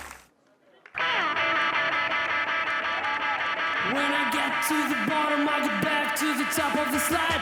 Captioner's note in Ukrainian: сміх